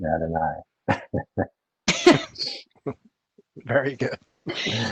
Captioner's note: laugh